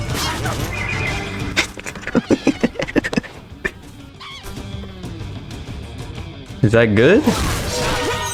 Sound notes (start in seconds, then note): 1.0 laughs to myself